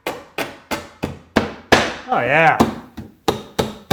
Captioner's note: hitting board